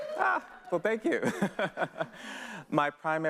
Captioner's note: laughing